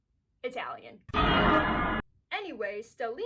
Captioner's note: jumpscare